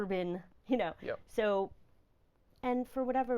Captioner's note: laughing